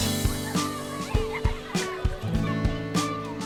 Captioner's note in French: musique entraînante; rires d'enfants